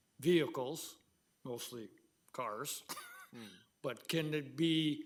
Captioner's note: laughing